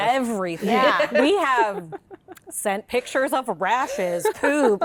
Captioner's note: laughter